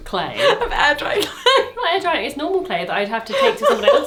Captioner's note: laughs